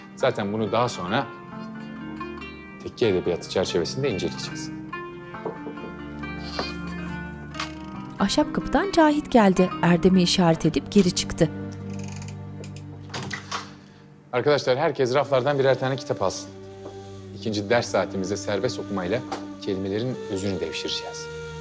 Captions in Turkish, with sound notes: Zaten bunu daha sonra Tekke Edebiyatı çerçevesinde inceleyeceğiz. (Kapı vurma sesi) Arkadaşlar herkes raflardan birer tane kitap alsın. İkinci ders saatimizde serbest okumayla kelimelerin özünü devşireceğiz.